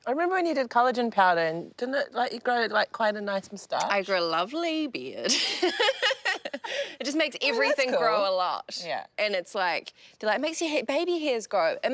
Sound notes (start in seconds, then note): 5.3 laughs